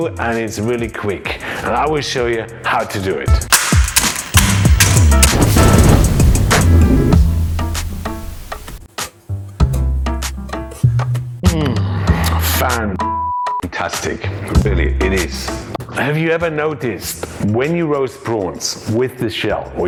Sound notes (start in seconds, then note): 3.5 shells crunching; 5.5 upbeat music